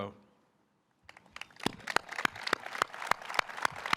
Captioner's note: all applauding